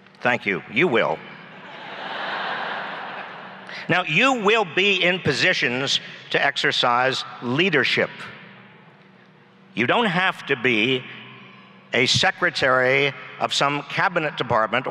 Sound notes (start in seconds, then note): 1.6 laughs